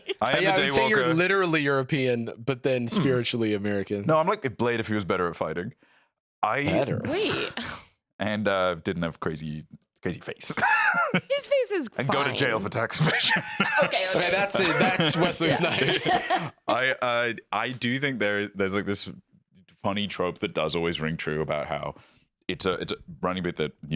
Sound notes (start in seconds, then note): 10.4 laughs